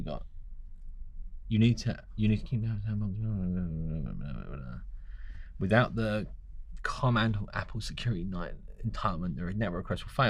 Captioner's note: mumbling